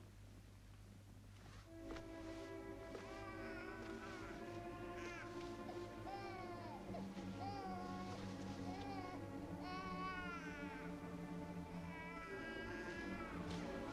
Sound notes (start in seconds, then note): 1.9 suspenseful music; 3.2 baby crying